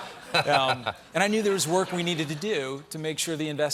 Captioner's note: laughter